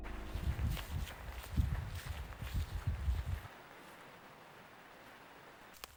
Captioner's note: sounds of crunching grass underfoot